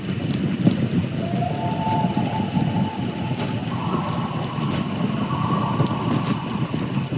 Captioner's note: loon calls